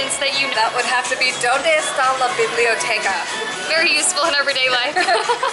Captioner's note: laughter